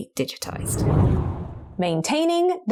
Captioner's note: video effect whooshes